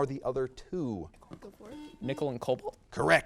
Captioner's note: buzzer beeps